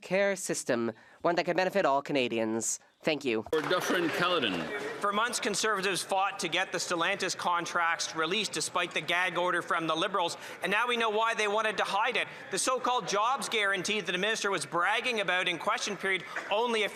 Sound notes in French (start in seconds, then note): 9.7 voix de l'interprète